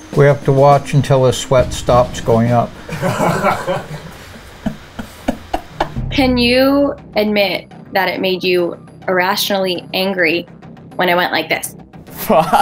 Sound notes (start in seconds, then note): 2.9 laughing; 12.1 man laughs